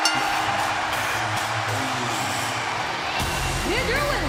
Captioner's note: bell ringing